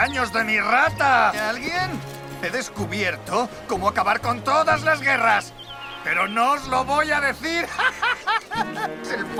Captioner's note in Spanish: se ríe